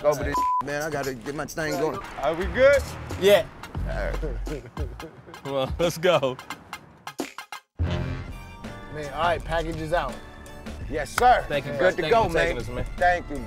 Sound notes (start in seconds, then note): 3.9 chuckling